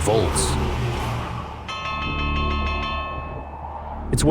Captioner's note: bell sounds